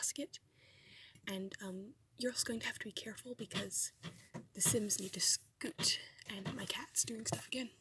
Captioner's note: cat rustling